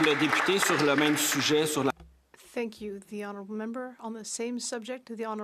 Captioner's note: some Applause